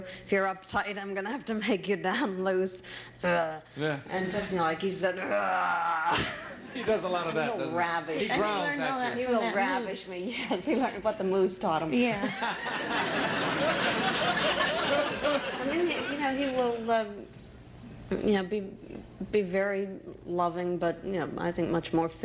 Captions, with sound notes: If you're uptight, I'm gonna have to make you loose. And just like (growls). -He does a lot of that. -He'll ravish me. -He growls at you. -He will ravish me. What the moose taught him. (audience laughing) He will be very loving but I think much more physical